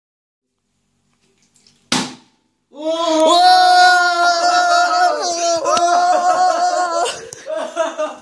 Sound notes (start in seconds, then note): 1.7 bottle drops on ground; 2.7 screaming in excitement; 7.0 laughter